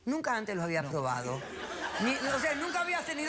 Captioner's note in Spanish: risas